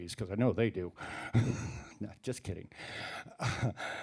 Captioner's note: laughs